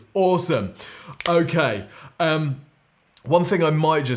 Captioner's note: fingers clicking